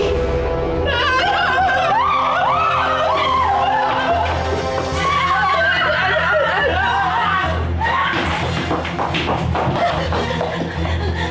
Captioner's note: screams